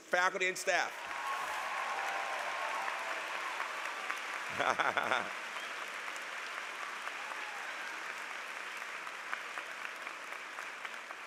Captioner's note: applause